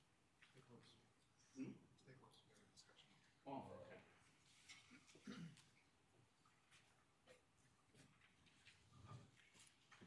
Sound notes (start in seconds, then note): 0.6 speaks faintly